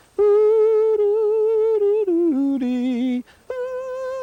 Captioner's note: hums melodically